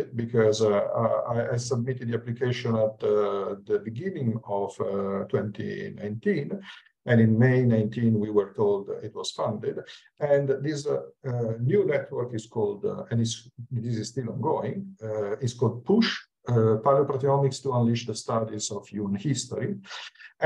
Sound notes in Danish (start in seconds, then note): 11.9 Abbreviated speech